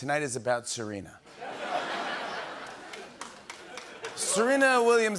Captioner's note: laughter